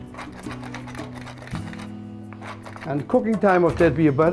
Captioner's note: pepper grinder cranking